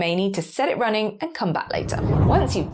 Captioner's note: graphic whooshes